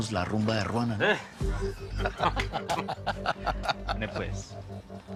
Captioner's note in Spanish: Risas